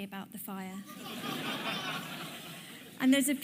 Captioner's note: audience applauding